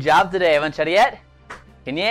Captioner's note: foreign language